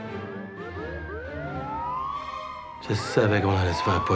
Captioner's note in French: sirènes